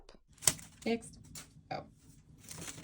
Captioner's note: bag falls to the floor